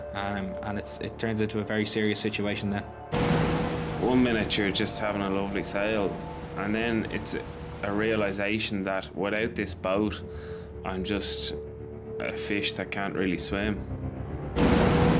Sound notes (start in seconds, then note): 3.2 lifeboat vrooming